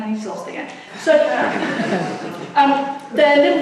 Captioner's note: audience laughs